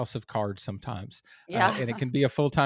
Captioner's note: laugh